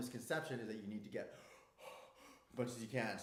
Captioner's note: breathing deeply